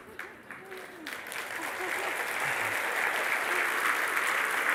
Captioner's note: risadas e aplausos